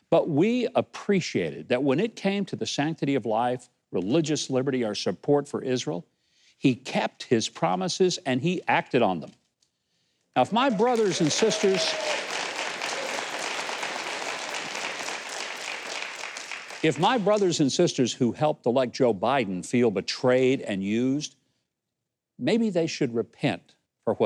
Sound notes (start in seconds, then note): 12.4 audience cheering